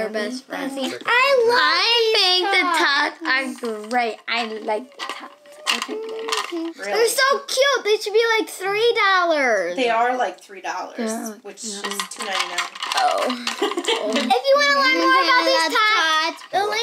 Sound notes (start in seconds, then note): 5.9 hums; 13.2 laughs